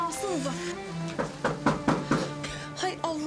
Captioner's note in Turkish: Kapı çalıyor